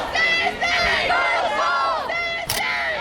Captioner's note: crowd